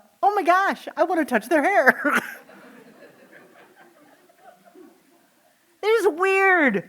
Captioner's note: laughing